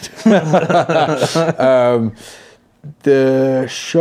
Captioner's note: all laugh